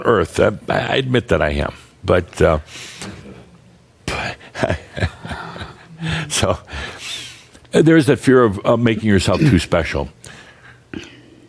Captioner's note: Adamus chuckles